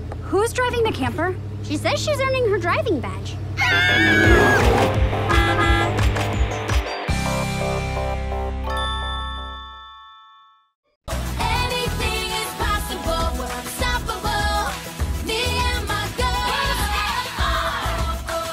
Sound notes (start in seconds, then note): 3.6 screaming; 3.6 horn honking; 4.1 engine revving